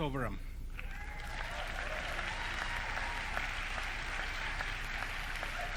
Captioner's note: audience cheering